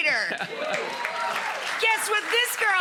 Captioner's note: audience cheers